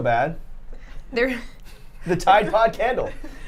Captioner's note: laughs